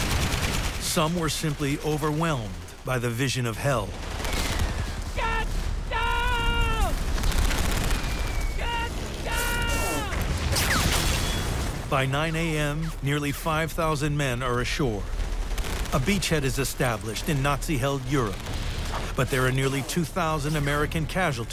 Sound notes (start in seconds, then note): 7.1 gunfire